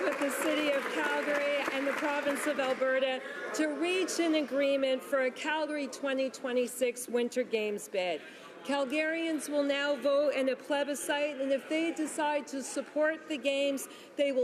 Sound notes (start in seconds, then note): 2.2 some Applause